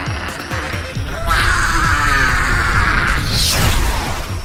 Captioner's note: growl; roar